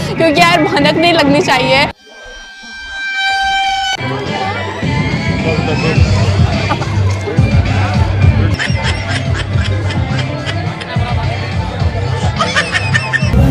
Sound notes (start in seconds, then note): 4.4 chattering; 10.3 baby laugh